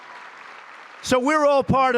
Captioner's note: applause